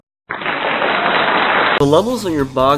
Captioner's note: applause